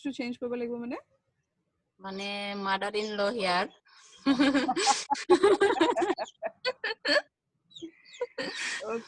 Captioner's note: laughs